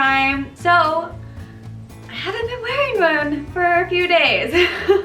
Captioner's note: laugh